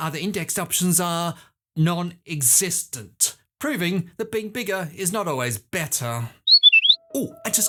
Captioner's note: whistle